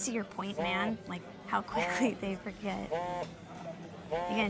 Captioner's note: phone vibrates